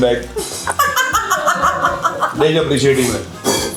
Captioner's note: bursts out laughing